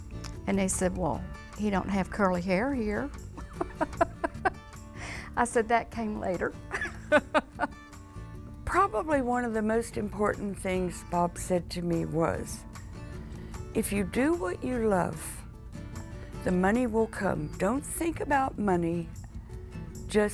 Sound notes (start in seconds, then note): 3.4 laughs